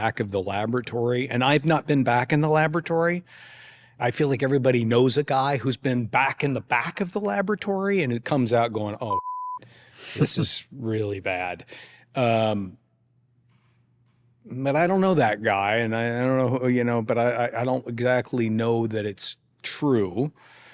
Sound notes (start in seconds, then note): 9.1 audio beeps